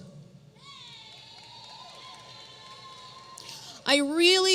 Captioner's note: attendees cheering